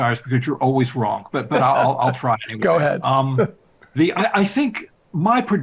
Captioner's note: chuckles